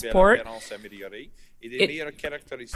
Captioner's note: speaking French